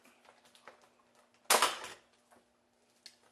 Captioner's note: pop